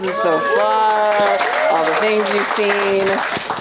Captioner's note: audience applauding